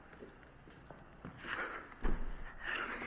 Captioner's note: teenagers giggling